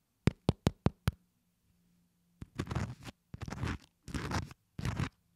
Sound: tapping; scraping

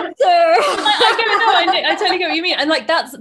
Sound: laughing

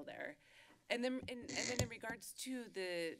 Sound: mic noise

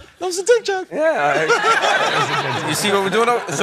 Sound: laughter

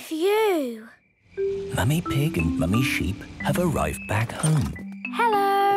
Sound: whispering

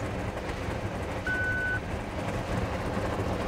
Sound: beep

